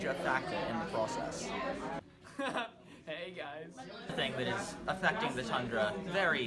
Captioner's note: laughs